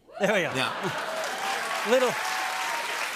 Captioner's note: cheers and applause